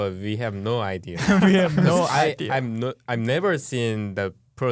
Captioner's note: laughing